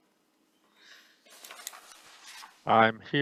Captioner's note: paper rustling